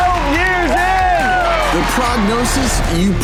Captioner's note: crowd cheering